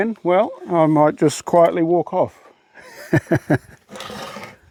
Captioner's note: laughing